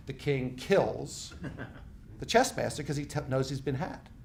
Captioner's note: laughing